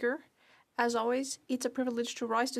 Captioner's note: speaking French